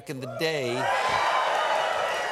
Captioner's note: applause